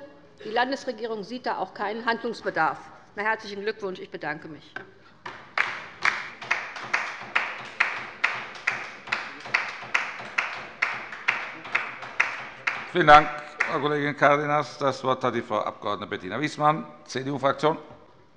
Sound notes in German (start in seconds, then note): 5.3 Beifall bei der LINKEN